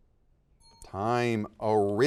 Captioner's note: bell rings